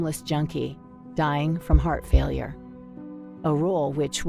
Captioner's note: heartbeat booms